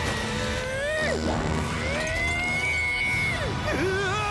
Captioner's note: sounds of weapons clashing